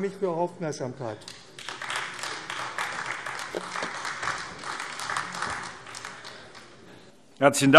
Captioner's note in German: Beifall AfD